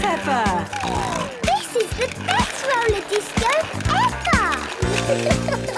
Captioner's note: snorting